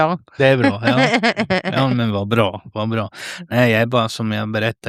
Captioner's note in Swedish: skratt